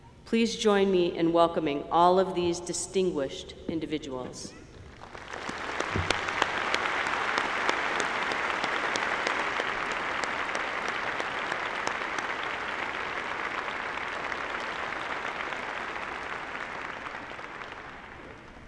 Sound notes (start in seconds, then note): 4.8 applause